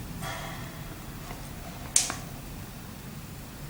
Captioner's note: breath intensifies